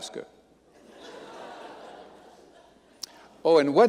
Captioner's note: audience laughing